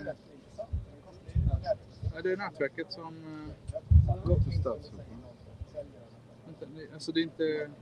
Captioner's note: speaking Swedish